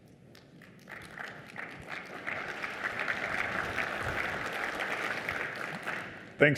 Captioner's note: applause